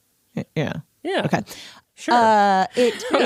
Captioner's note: laughs